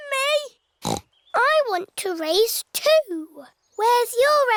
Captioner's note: snorts